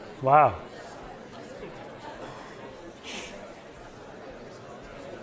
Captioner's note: students talking